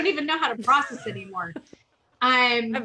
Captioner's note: laughs